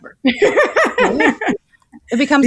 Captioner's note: laughing